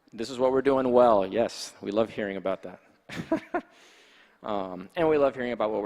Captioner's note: laughs